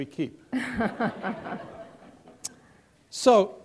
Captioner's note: laughter